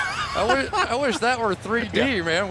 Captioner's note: laughs